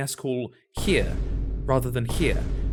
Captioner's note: boom